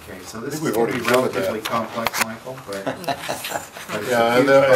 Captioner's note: laughter